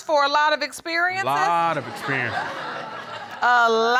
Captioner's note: audience laughing